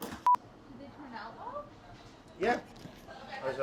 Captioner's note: beeping